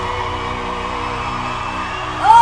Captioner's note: audience cheers